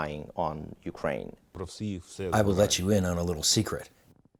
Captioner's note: through translator